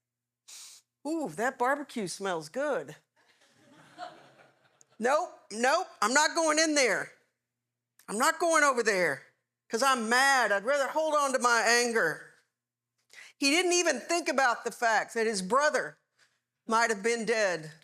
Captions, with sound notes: Ooh, that barbecue smells good. (Audience Laughing) Nope, nope, I'm not going in there. I'm not going over there, because I'm mad. I'd rather hold on to my anger. He didn't even think about the fact that his brother might have been dead,